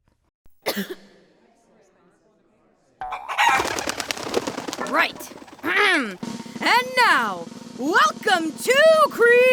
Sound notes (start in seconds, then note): 0.6 cough; 3.1 clucking